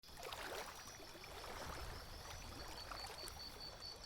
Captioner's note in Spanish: reflejos de árbol en el agua y sonidos de agua